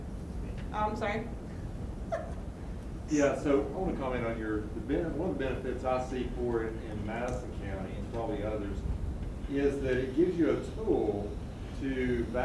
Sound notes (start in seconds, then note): 2.0 laughing